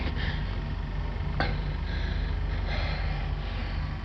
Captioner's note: breathing heavily